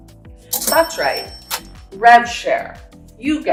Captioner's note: cash register noise